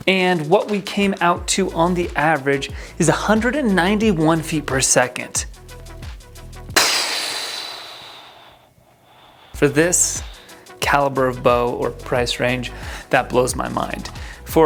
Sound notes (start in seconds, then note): 6.8 sighs loudly